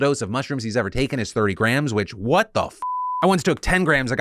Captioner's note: beep